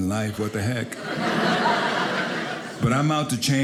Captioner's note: audience laughing